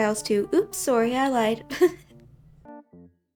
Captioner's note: chuckles